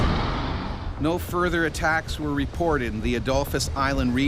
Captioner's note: voiceover